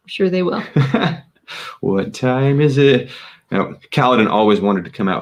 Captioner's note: laughs